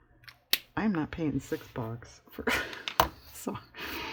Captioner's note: laughs